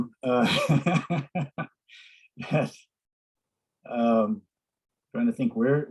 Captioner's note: laughs